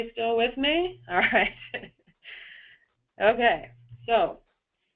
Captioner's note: chuckling